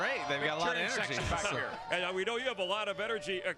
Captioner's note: applause